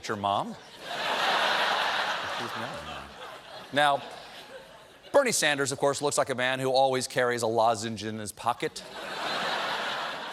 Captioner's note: laughter